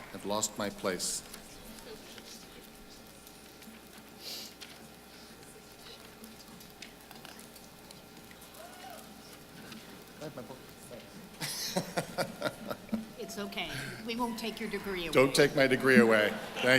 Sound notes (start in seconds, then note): 11.4 laughing